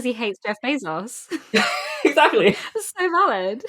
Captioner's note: laughing